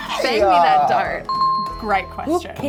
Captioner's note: dinging